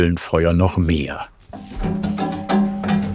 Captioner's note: rattling